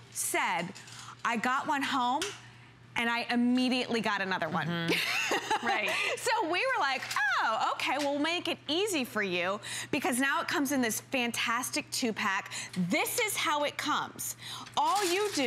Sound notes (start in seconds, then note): 4.9 laughter